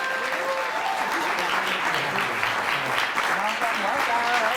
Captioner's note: audience clapping